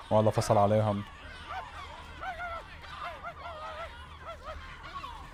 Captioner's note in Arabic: صوت عواء